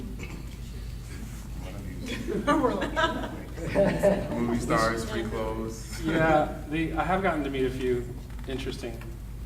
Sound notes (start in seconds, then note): 1.5 panel chattering; 2.0 panel laughing